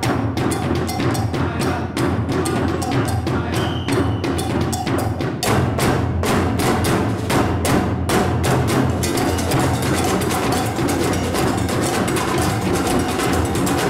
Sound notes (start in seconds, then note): 3.5 whistle blows